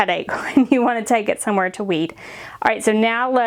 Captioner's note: chuckling